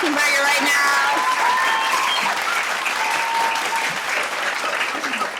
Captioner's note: audience applauding